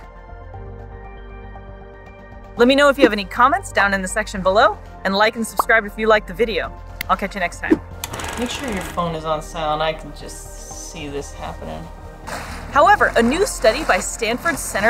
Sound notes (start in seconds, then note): 0.1 background music; 8.0 film rolling sound effect